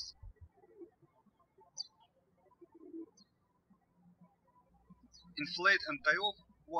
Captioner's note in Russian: птички щебечут